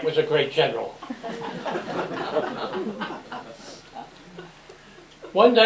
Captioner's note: laughter